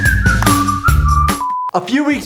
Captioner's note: screen beeps; upbeat music; screen beeps